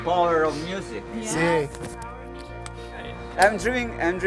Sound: speaks Italian

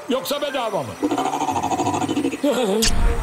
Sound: scary digital sound

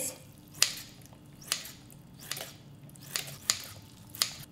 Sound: scissors snapping

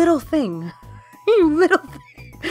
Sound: laughing

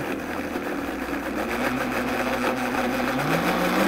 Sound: blender whirring

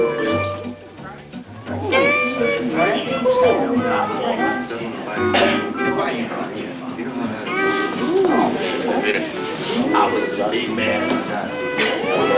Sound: indistinct chatter

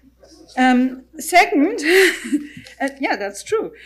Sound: laughs

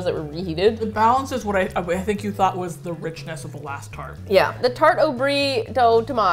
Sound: stumbling

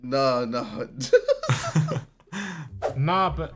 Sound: laughing

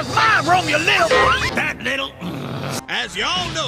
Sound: growl

